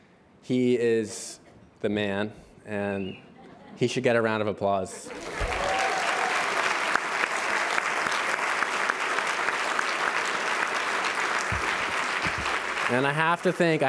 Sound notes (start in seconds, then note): 5.1 applause